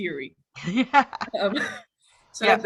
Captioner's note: laughing